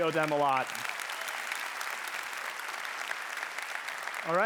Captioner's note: applause